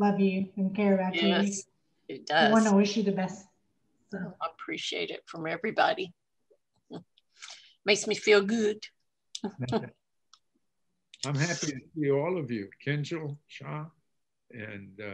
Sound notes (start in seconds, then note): 9.4 laughs